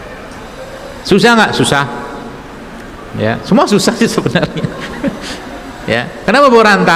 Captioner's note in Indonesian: tertawa